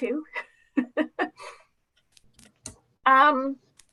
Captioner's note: laughing